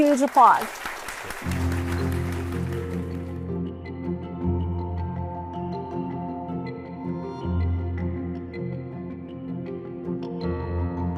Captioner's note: audience applause